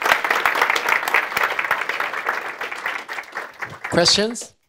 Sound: audience applauding

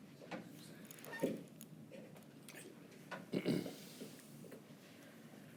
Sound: unmiced voice talking

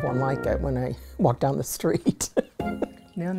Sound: laughter

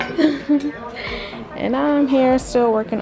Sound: chuckles

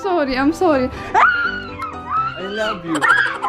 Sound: screams

